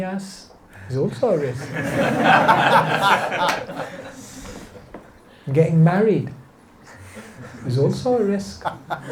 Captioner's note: laughter; laughter